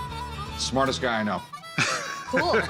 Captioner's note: laughs